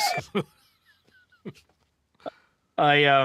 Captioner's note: laughing